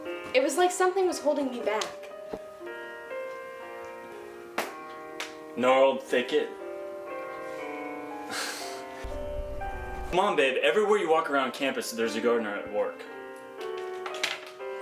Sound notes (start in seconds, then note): 8.2 sighs